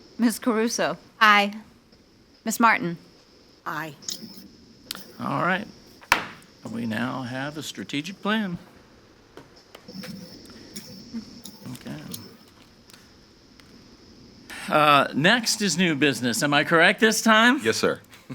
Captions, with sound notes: - Ms. Caruso. - Aye. - Ms. Martin? - Aye. - All right. (gavel bangs) We now have a strategic plan. Okay. Next is new business. Am I correct this time? - Yes sir.